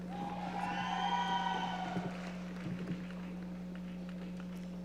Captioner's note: audience cheering